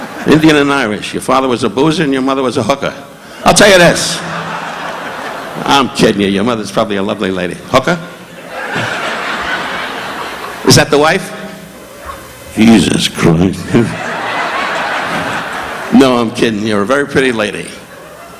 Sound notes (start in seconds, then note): 0.0 audience laughing; 4.0 audience laughing; 8.2 audience laughing; 13.6 audience laughing